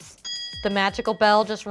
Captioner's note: ding